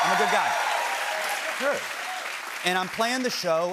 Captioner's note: cheers and applause